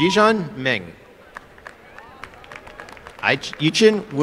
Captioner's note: applause